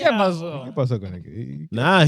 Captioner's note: speaking In Foreign Language